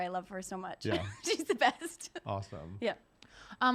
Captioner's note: giggles